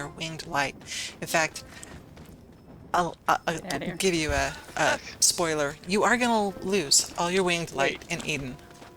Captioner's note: door opening